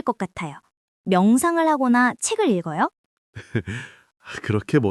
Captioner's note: laughs